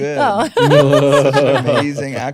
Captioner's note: laughing